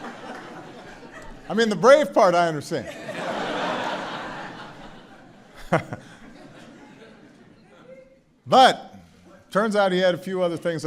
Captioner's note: laughter; laughter